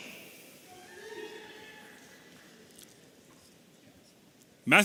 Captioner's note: audience cheering